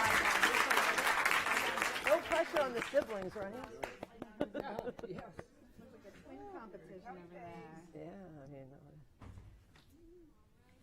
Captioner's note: applause